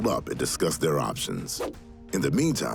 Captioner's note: air whooshing